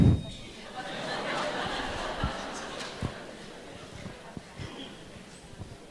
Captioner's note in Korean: 청중 웃음